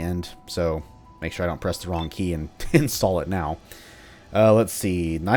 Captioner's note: chuckles